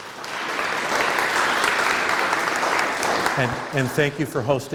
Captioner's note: applause